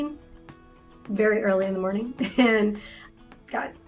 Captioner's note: chuckles